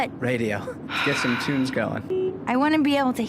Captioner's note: sigh